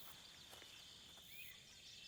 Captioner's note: none